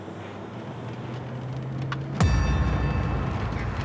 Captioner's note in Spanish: ruidos del auto